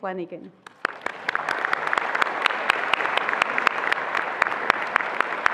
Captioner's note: attendees applauding